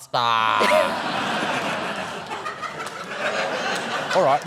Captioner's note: laughter